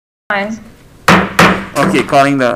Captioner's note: mallet thudding